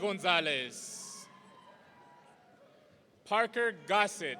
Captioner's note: audience cheering